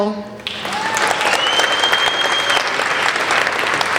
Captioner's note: applauding